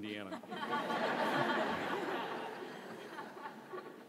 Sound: audience laughs

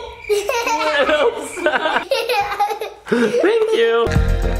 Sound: giggles

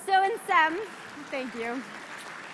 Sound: applause

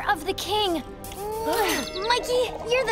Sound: kissing

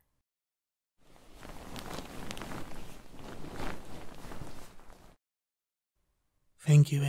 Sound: sheet sounds

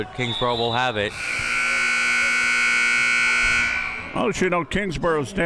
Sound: buzzer sounding

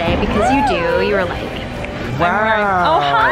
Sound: snaps

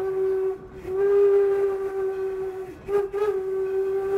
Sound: train whistle

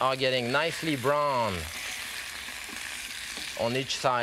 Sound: sizzling

